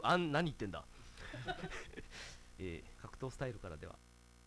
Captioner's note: staff laughs